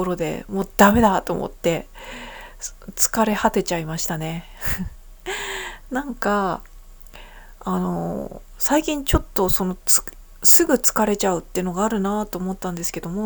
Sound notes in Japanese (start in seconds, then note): 5.5 鼻息